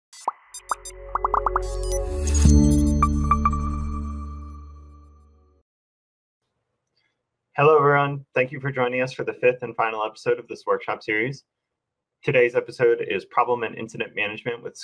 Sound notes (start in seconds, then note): 0.2 soft electronic tones; 1.0 bubbles popping